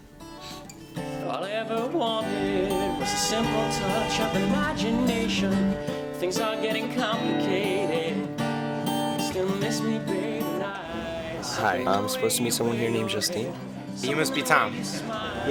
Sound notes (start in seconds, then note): 2.4 vehicle honking